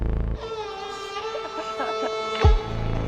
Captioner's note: laughter